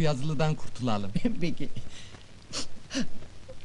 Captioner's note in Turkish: ağlamakli